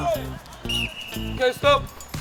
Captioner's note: whistle